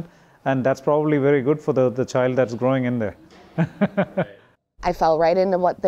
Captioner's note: chuckles